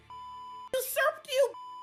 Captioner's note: beep